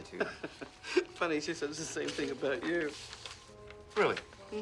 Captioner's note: chuckles